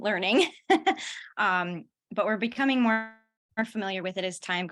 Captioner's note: laughter